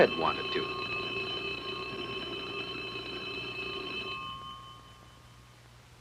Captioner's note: bell ringing